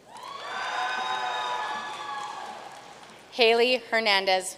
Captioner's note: audience cheering and applauding